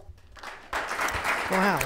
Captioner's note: audience and board members clap